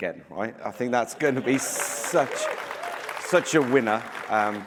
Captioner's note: applause